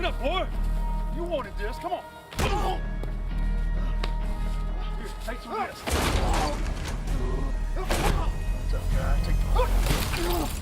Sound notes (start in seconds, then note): 0.1 intense music; 3.0 AJ grunting; 7.4 intense music building